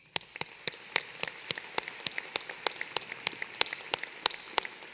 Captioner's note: applause